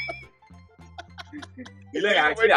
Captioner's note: crackling laughter